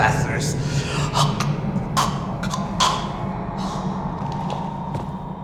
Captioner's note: Dr. Ravi chokes